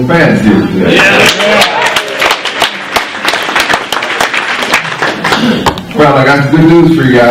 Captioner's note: clapping